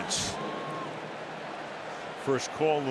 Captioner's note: pa announcement